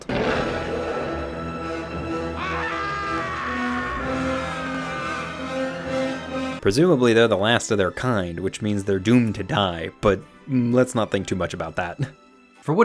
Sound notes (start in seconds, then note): 0.0 dinosaur roaring; 2.0 man screaming